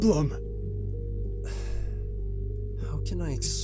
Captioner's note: sigh